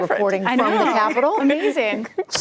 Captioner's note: laughter